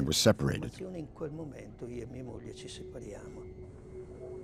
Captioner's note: Italian spoken audio